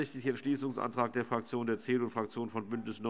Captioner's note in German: none